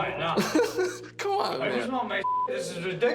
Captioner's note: chuckles